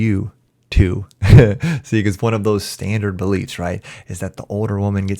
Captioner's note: chuckles